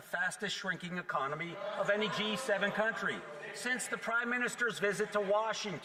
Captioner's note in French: voix de l'interprète